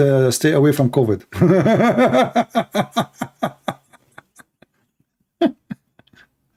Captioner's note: Ketawa